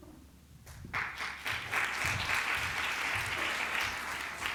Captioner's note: applause